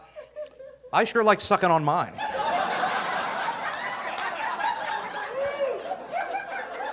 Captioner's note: audience laughing